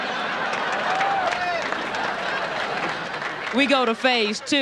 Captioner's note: audience laughter